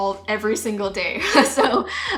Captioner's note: chuckles